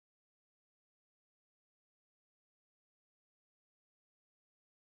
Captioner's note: none